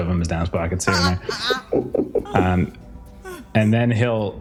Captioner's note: laugh